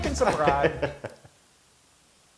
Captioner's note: laugh